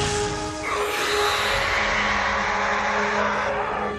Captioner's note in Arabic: صراخ